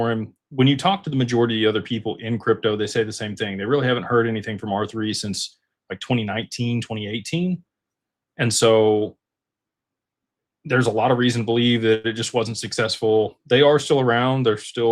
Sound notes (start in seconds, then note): none